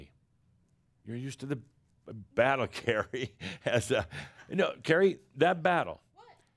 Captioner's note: chuckles